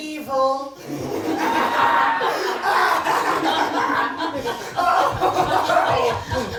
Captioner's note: The Masters laugh